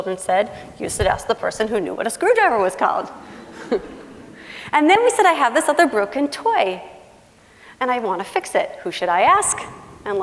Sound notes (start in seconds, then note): 3.3 laughing